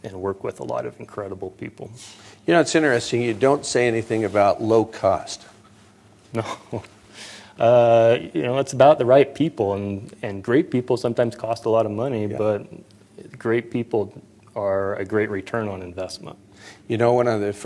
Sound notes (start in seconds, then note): 6.4 laughter